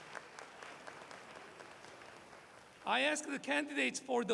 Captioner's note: applause